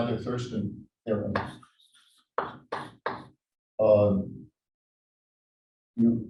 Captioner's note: chalkboard tapping loudly